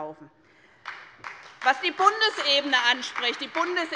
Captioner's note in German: Beifall bei der SPD